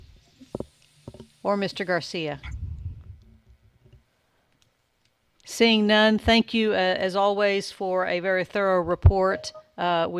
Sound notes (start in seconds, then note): none